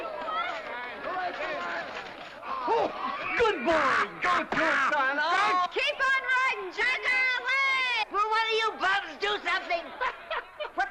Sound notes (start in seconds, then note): 0.0 shouting & clamoring; 2.0 men laugh; 4.7 laughter